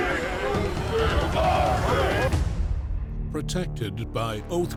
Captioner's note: crowd chanting